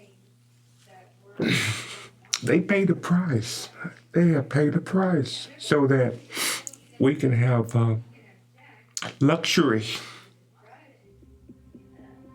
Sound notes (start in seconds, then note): 1.4 sighs